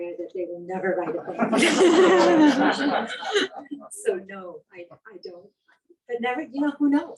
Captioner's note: laughing